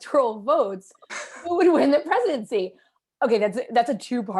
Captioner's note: laughter